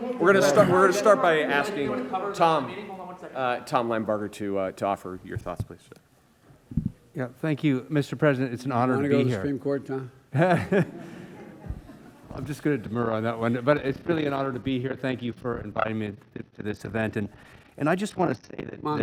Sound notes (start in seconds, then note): 10.3 laughter